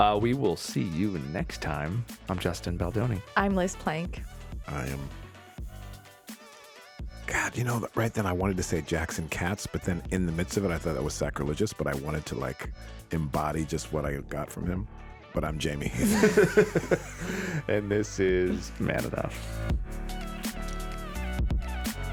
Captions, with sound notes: We will see you in next time, I'm Justin Baldoni. - I'm Liz plank. - I am, God, right then I wanted to say Jackson Katz, but then in the midst of it, I thought that was sacrilegious, but I wanted to like embody just what I got from him. But I'm Jamey. (laughs) - And this is "Man Enough." (smooth music)